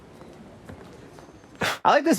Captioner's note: chuckles